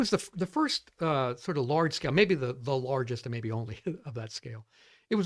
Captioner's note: laughs